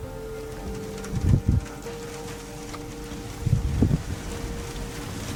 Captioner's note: downpour trickling